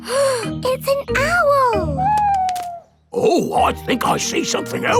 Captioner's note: gasps